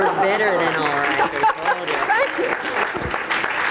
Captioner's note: applause; laughs